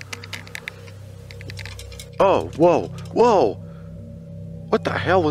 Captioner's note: fence rattles